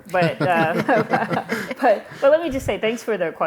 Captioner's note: laughter